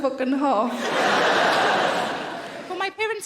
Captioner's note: audience laughing